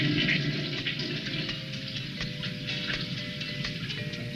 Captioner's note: toilet flushing